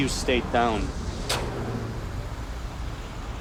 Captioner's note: spits